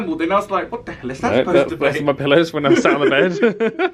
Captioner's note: laughs